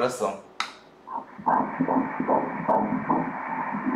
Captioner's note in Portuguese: batidas do coração